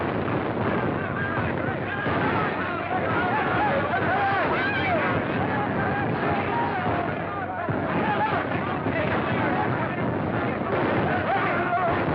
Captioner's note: shouting